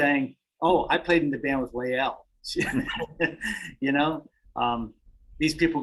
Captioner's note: laughs